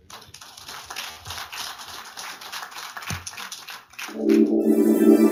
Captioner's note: applause